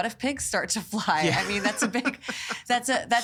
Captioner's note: laughing